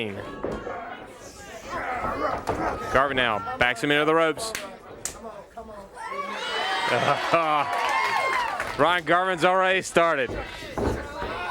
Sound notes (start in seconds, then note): 6.0 crowd cheering; 8.8 crowd chatter